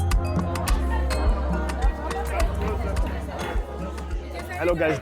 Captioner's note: background chatter